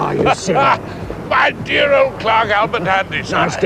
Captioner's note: laughing